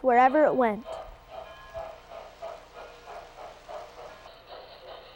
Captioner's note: train chugging